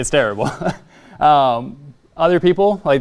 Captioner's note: laughs